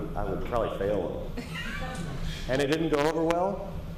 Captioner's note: laughter